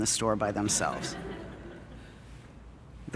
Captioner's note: audience Laughing